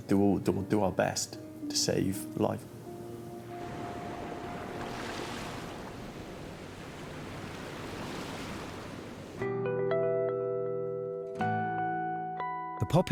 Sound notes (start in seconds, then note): 2.6 waves splashing; 2.8 somber instrumental music; 6.4 water rushing; 6.4 waves splashing; 9.4 uplifting instrumental music